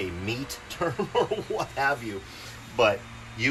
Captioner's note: chuckles